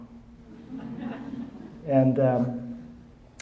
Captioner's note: audience laughing